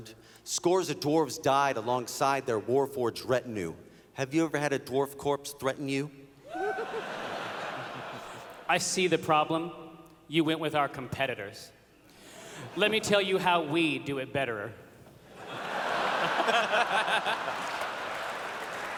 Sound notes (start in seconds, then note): 6.5 laughter; 15.3 laughter